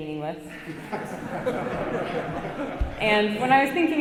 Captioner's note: audience laughs